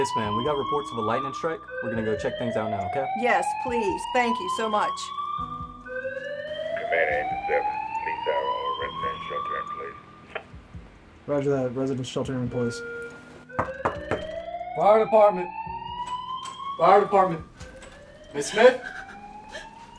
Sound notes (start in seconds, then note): 13.6 knocking